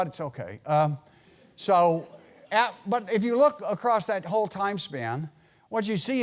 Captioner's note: laugh